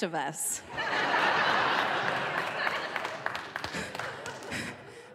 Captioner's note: audience laughing